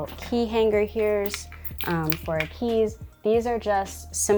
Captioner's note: keys jingling